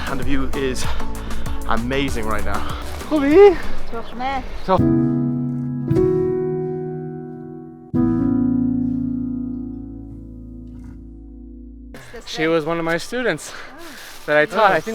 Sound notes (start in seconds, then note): 2.8 speaking Farsi; 4.9 gentle music